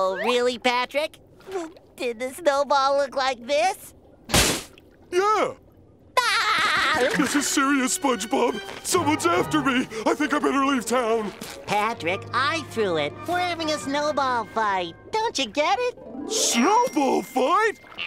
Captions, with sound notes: Really Patrick? Did the snowball look like this? Yeah! [laughing] This is serious, SpongeBob, someone's after me! I think I better leave town. Patrick, I threw it, we're having a snowball fight, don't you get it? Snowball fight?